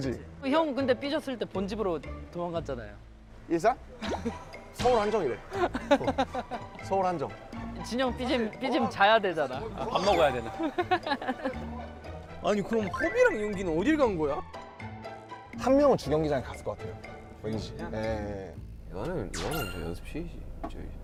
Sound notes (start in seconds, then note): 9.9 kekeke